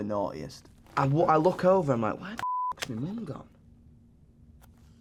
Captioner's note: beep